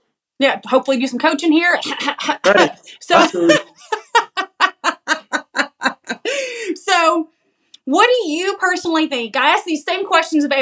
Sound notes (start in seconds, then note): 1.8 cough cough; 5.1 laugh